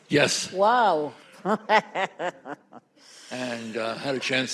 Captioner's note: laughs